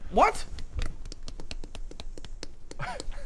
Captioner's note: synchronised nose breaking